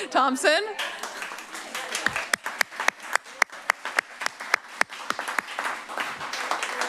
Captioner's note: applause